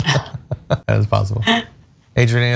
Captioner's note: laugh